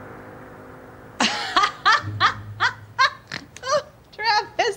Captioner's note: Tiffany laughing